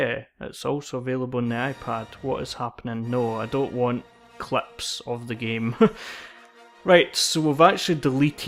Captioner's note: laughs